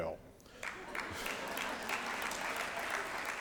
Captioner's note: applause